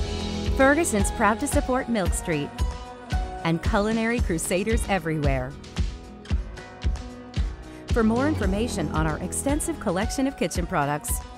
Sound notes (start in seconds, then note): none